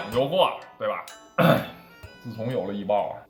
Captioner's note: cough